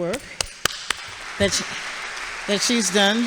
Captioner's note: audience applauds